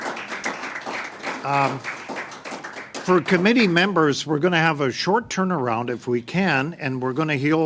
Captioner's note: applause